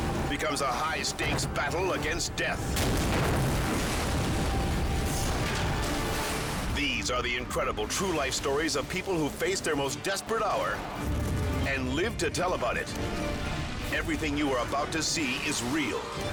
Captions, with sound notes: becomes a high stakes battle against death. (boat crashes) (dramatic music) These are the incredible true life stories of people who face their most desperate hour and live to tell about it. Everything you are about to see is real.